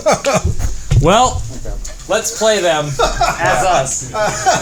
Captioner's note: chuckle